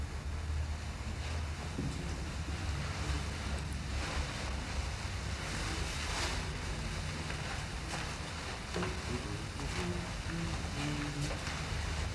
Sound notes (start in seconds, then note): 9.7 man hums